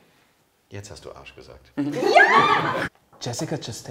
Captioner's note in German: lacht